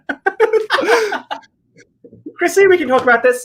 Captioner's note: both laugh